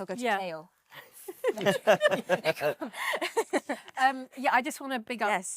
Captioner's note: panellists laughing